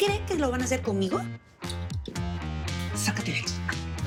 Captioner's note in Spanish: Chasquidos